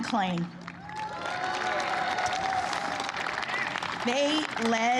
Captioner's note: applause